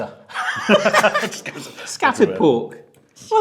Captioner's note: both laugh loudly